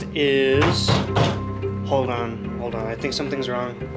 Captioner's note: pounding on door